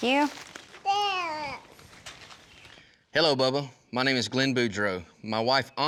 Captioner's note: babbles